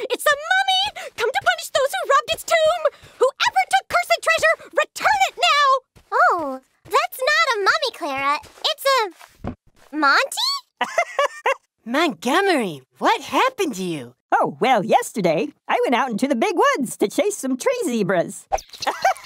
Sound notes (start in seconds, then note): 10.8 giggles; 18.8 laughter